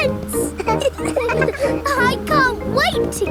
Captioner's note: all laughing